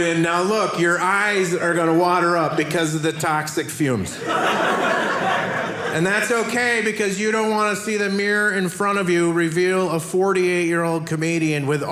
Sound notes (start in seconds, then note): 4.1 audience laughing